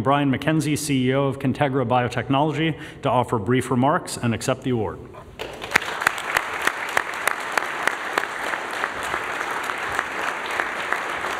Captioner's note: applause